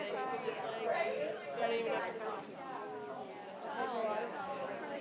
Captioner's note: audience chattering